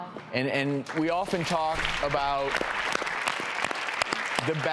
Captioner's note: audience applauds